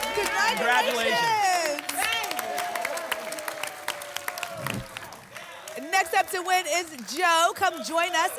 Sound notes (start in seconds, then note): 2.2 applause and cheering; 4.5 whoosh